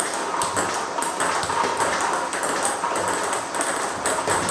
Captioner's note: ball ping pong hitting continues